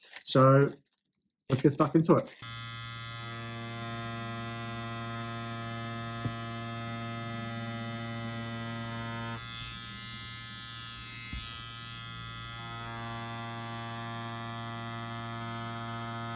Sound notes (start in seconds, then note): 2.5 machine vibrates